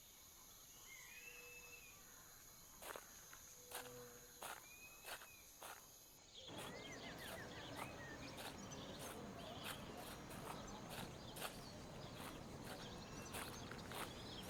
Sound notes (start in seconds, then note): 6.4 birds chirping